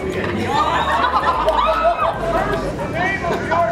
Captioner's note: crowd gasping and laughing